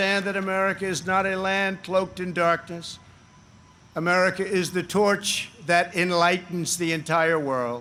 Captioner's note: applause